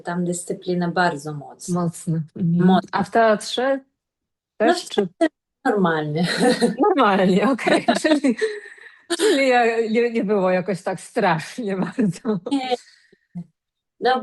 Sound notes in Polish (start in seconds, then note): 6.2 śmiech